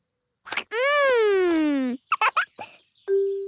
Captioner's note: giggles